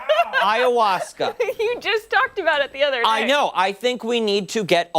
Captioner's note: laughter